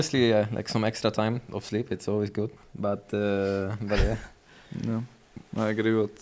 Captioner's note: laughs